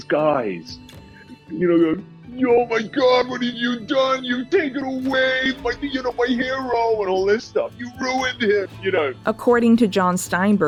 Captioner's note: silly American accent